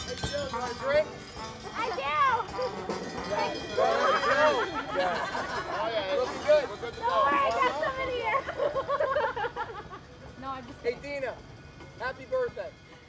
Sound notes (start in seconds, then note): 2.9 slow music continues; 4.2 overlapping chattering